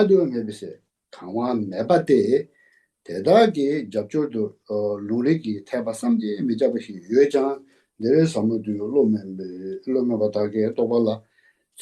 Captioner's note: tibetan